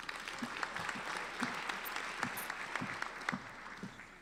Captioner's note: applauding